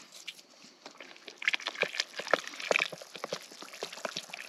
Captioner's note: stirring